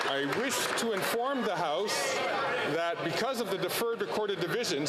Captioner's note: some Applause